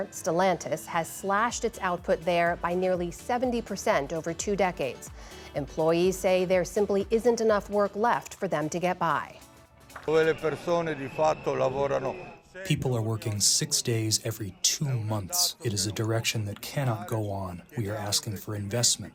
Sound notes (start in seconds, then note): 13.2 through translator